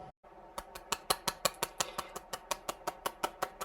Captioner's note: clapping